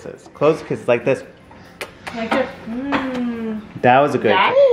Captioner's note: kissing noise